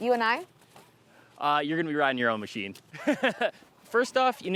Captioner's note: laughs